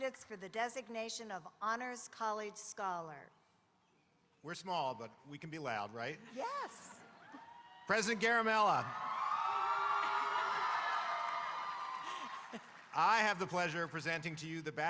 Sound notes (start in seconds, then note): 10.0 audience cheering